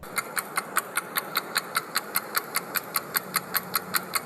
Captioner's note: clock ticking